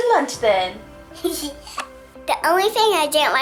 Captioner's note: laughs